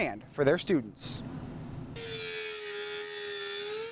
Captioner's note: grinding metal